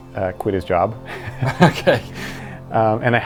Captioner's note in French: en riant